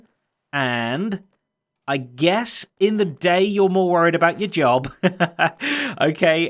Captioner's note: chuckles